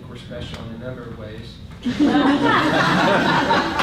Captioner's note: laughter